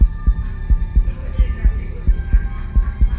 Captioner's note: strong and fast heartbeat